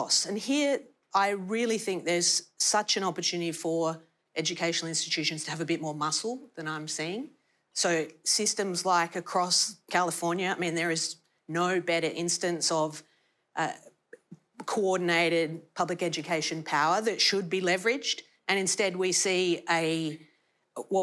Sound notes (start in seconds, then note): none